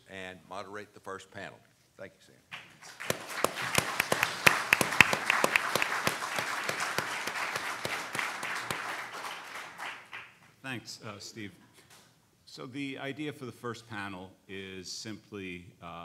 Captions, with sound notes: and moderate the first panel, thank you Sam. (clapping) - Thanks Steve. So the idea for the first panel is simply,